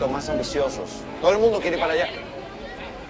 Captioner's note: distant Chatting